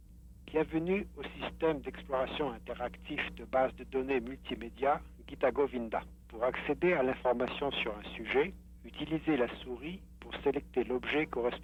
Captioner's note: non-english speech